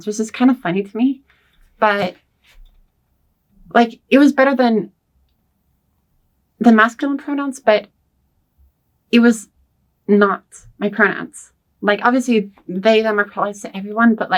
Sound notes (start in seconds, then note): none